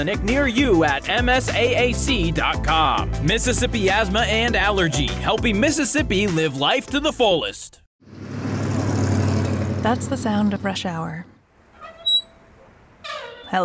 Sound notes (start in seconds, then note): 8.0 traffic noise; 11.6 brakes squealing